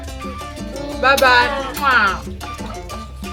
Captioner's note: kisses